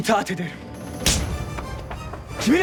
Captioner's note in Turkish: Tokat sesi